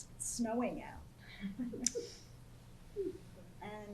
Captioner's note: laughter